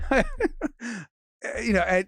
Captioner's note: Robert laughs